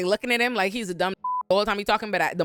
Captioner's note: beep